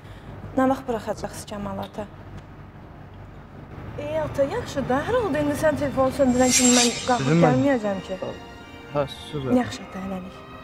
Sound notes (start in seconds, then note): 6.2 flashback sound